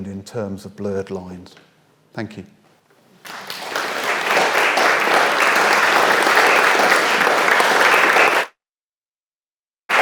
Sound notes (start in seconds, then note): 3.1 audience applauds